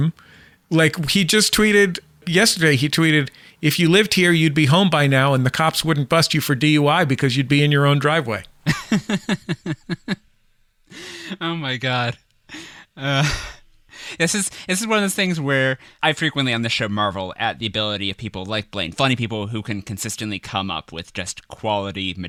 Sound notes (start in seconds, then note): 8.6 laughs